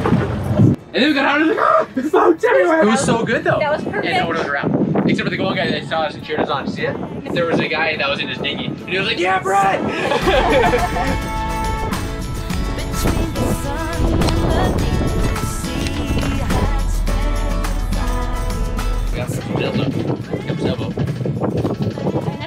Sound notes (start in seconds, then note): 1.3 yells; 9.8 laughing; 11.7 engine roaring and wind blowing; 15.2 equipment clicking